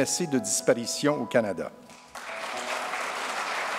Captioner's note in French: applaudissements